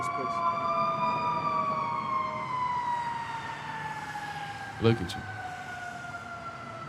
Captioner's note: sirens blaring